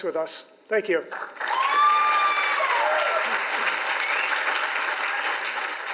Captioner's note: audience applauds and cheers